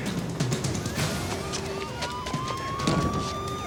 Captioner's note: sirens wailing; hand bangs